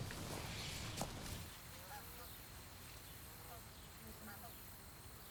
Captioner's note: geese honking